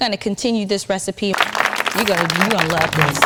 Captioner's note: audience applauding